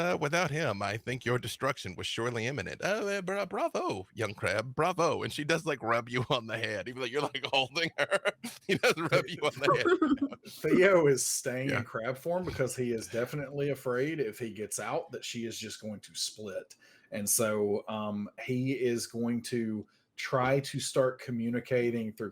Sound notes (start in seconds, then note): 10.4 laughing